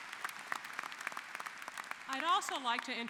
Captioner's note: applause